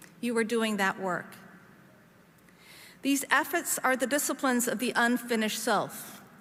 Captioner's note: none